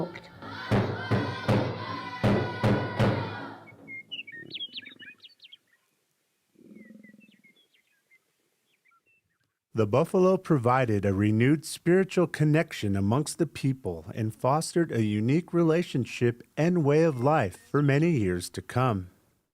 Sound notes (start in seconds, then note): 0.2 chanting in Native language; 0.7 dramatic percussive music; 5.1 birds singing